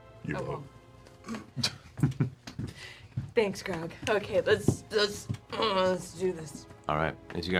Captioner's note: clears throat